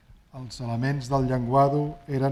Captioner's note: speaking spanish